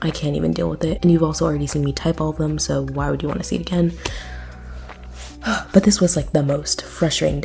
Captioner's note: sigh